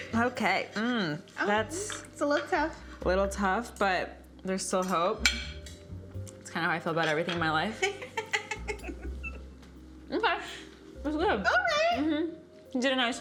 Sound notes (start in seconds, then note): 7.7 laughs